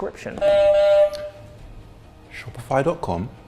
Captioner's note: buzzer buzzes